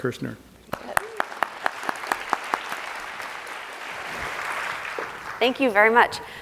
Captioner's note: applause